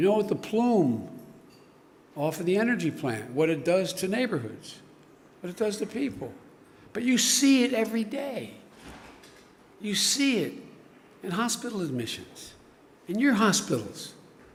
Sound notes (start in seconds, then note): none